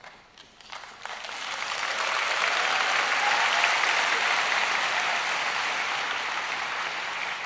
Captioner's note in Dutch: applaus